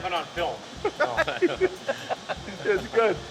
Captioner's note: all chuckle